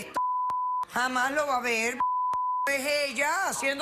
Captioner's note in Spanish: más bips